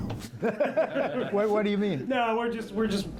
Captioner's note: laughter